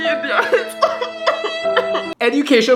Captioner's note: laughs